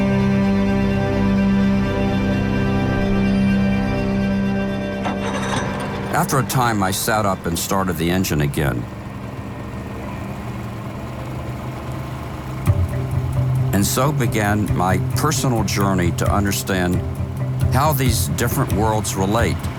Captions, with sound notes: (uplifting music) (boat engine revving) After a time, I sat up and started the engine again. (boat engine whirring) And so began my personal journey to understand how these different worlds relate: